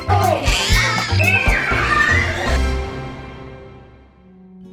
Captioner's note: upbeat music; kids screaming